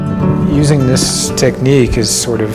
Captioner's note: indistinct chatter